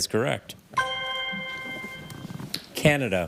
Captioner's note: ethereal ring